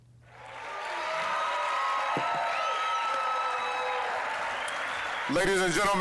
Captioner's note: applause, cheering